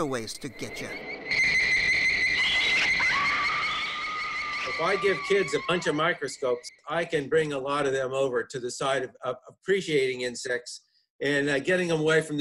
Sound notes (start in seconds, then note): 2.6 insects chirping; 4.6 screaming